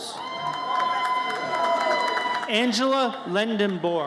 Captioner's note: audience cheers